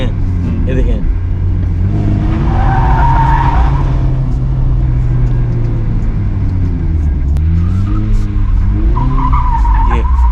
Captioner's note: car drifting sound